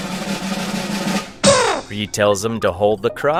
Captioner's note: blatty horn effect